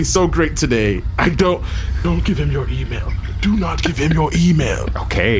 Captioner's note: whispering